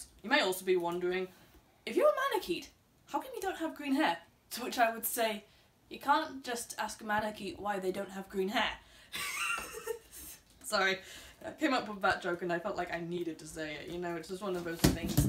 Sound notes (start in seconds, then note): 9.2 Mutley laugh